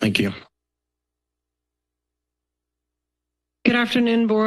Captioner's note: silence